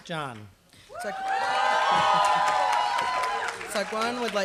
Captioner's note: applause